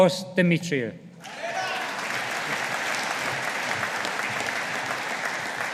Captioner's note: audience applauding